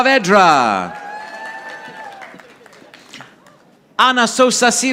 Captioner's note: audience applauding